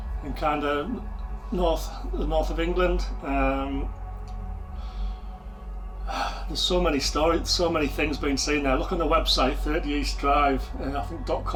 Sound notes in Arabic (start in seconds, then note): 4.6 تنهدات